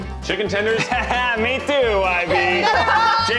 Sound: laughs

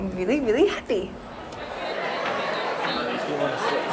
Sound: restaurant chatter

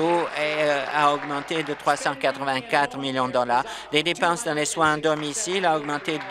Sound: applause

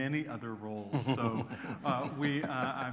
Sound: laughter

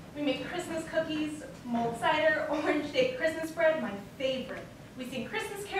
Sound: none

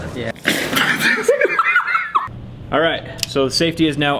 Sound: laughs

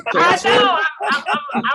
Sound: laughter

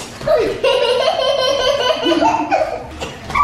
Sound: laughing

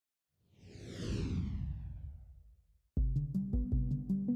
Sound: logo whooshes; soft delightful music

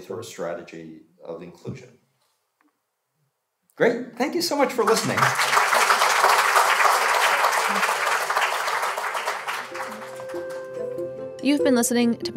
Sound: applause

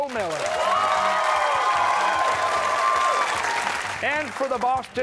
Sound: cheers and applause

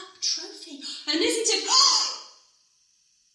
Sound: gasps

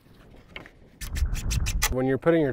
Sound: drill whirring

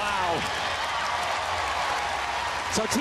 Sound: audience cheering

